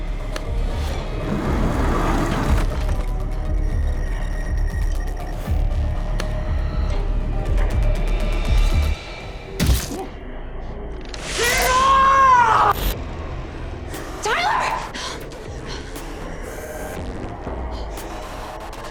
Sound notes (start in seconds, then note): 0.0 tense suspenseful music; 0.3 switch clicks; 1.2 chair slides across floor; 3.4 tense suspenseful music; 6.1 switch clicks; 7.0 tense suspenseful music; 9.6 body thumps; 12.8 tense dramatic music; 15.4 tense dramatic music